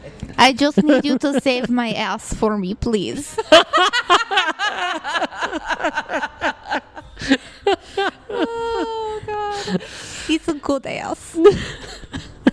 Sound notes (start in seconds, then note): 3.3 laughing; 3.3 laugh; 9.4 sniffling; 10.6 continues to laugh